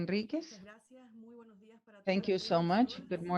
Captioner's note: speaking in Spanish